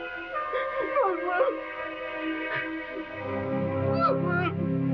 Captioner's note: sobbing